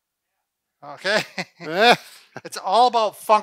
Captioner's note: laughs; laughing